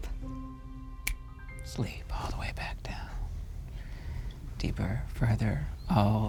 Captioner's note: snaps fingers